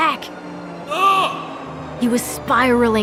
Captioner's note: grunting in agony